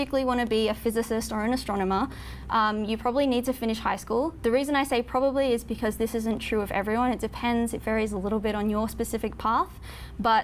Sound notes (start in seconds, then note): none